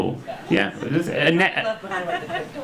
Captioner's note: stammers